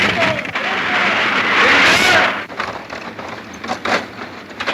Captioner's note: tree crashing